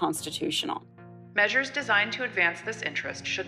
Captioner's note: soundbite of archived recording